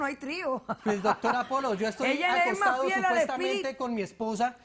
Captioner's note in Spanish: Risas